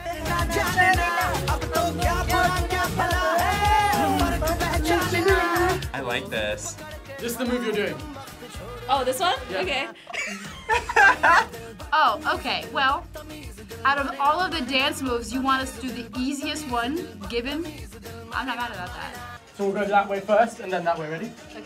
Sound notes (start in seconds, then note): 0.2 upbeat music; 9.8 both laugh